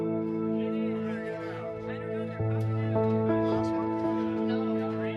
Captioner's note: people chatting